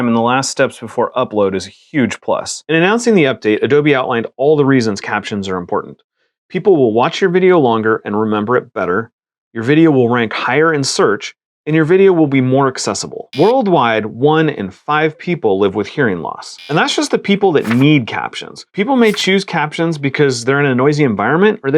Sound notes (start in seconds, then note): 13.3 buzzer; 16.6 buzzer; 17.6 page turns; 19.0 page turns